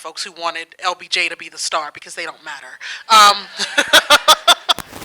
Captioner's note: audience laughing